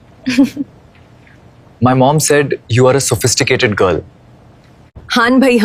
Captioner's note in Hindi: हंसी